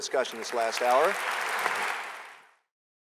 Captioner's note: applause